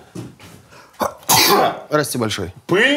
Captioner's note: Dud' sneezes loudly